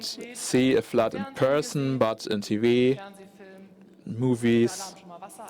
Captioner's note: German spoken